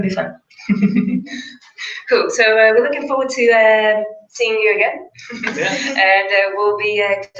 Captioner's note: laugh